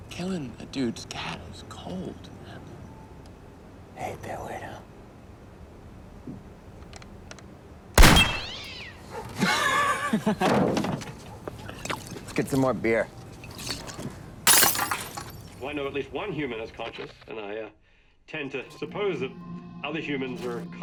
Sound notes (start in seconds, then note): 5.2 gunshot; 8.0 cat shrieks; 9.1 laughs